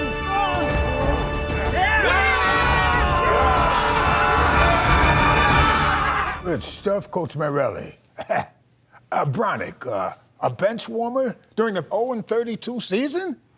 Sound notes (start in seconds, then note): 2.1 all shouting